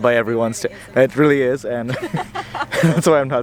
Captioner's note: laughs